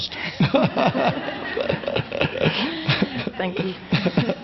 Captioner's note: audience laughs